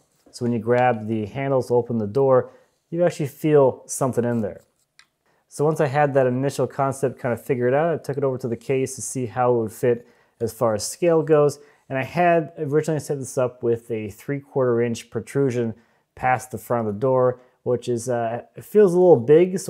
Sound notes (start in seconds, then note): none